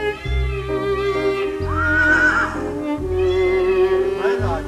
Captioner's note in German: Wiehern, Pfauenschreie